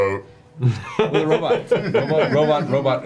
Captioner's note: laughs